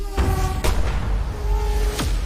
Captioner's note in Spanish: Disparo